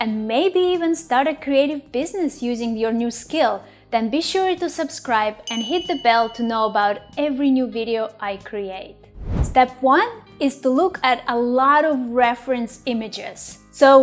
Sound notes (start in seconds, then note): 5.5 bell rings; 9.1 air whooshes